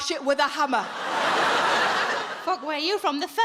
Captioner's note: audience laughing